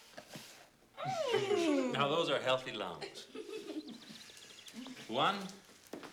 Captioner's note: laughs